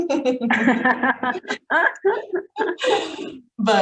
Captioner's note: both laughing